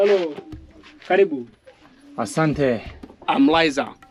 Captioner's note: In Swahili